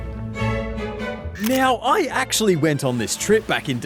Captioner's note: camera clicks